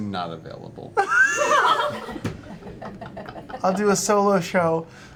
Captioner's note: laughter